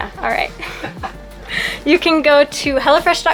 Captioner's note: laugh